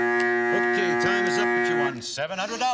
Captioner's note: buzzer